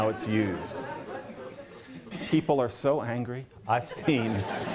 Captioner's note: laughter